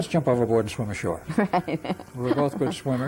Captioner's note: laughs